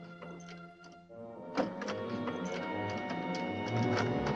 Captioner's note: lock rattling